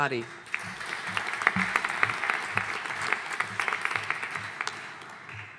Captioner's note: audience applauding